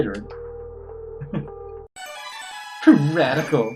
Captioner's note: chuckles